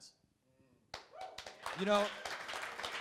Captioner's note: crowd applauding